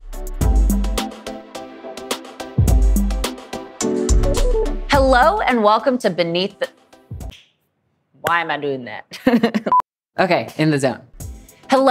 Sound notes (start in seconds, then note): 0.0 upbeat music; 7.0 claps; 9.6 laughs